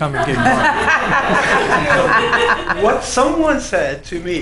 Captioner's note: laughing